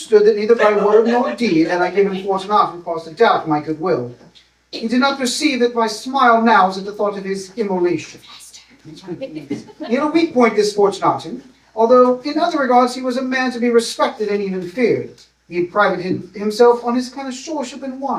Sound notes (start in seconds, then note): 8.5 whispered; 9.1 laughter